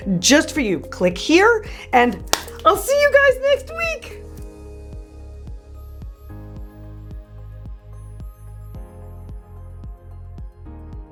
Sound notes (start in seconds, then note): 2.2 claps; 4.3 lighthearted music